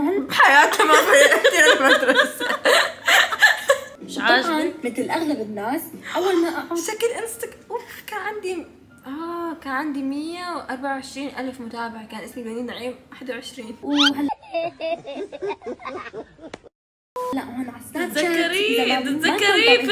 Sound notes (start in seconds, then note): 13.7 squeak; 13.9 laughing